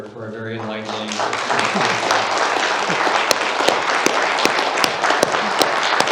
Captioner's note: applause